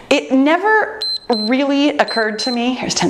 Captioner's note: timer beeps